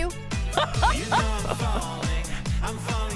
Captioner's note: laughs